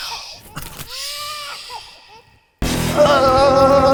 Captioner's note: baby crying